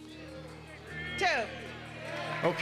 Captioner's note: audience yelling suggestions